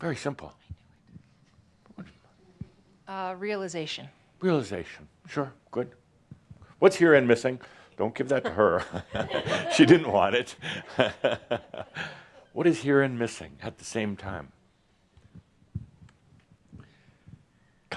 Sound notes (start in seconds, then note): 11.3 Adamus chuckles